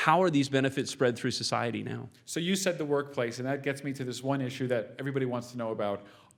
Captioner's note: none